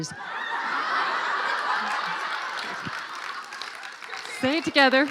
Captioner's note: laughing